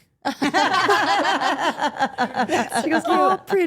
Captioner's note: Steph and Elyse laugh